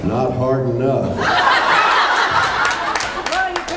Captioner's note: laughs